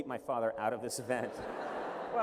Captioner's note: laughter